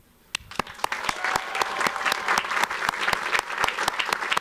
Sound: audience applauds

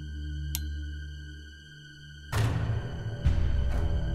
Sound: suspense music; switch flicks

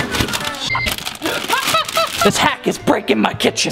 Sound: beep

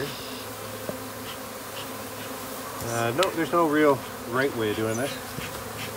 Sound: bees buzzing

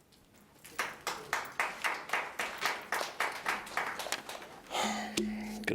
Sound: audience applauding lightly

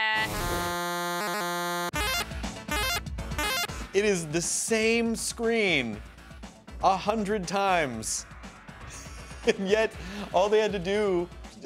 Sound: hums superhero music; arcade sounds

